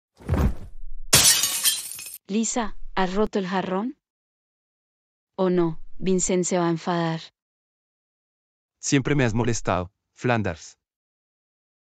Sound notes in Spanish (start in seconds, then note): 0.2 FX - Body Fall; 1.1 FX - Glass Smash